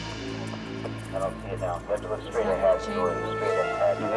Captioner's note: radio chattering